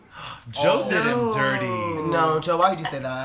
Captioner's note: gasp